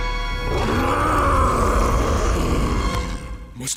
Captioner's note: roaring